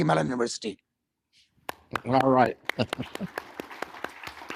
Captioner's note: applause